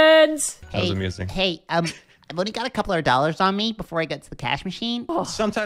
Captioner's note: with a valley girl accent